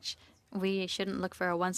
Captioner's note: speaking French